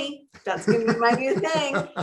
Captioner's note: laughing